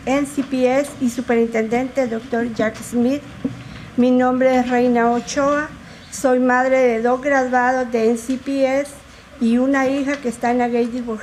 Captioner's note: speaking in spanish